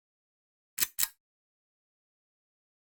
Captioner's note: click